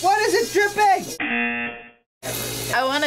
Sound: buzzer rings

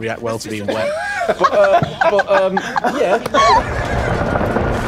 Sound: laughter

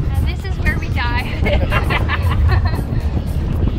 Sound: laughter

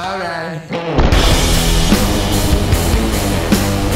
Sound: blasting sound; hardrock music

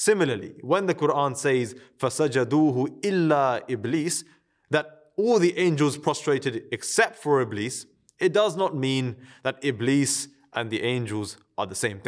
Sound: Arabic

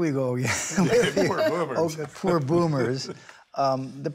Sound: all laughing

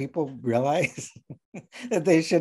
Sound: laughing

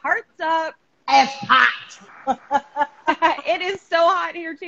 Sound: laughing

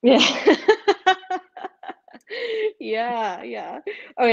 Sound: laughing

